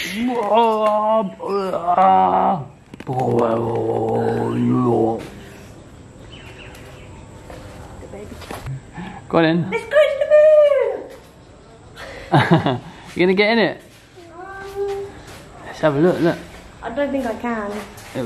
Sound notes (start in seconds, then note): 1.6 sound of groaning and growling; 9.8 laughs